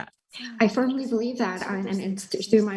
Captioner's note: Marie speaking foreign language